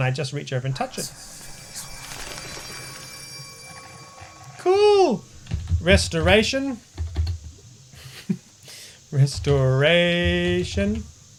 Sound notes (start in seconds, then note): 0.7 message Spell Sounds